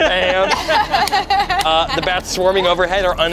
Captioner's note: everyone laughs